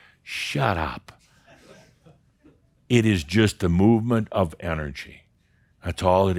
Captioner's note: a few chuckles